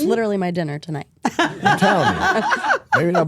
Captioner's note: Stephanie laughs